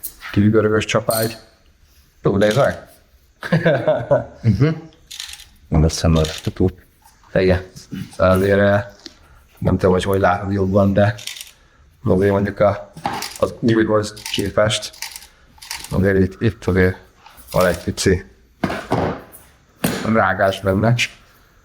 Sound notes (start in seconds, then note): 3.4 laughter